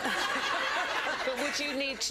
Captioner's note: laughter